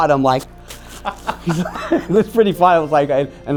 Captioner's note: interviewer laughing